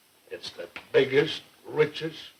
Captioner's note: none